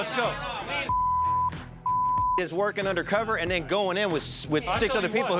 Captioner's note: beep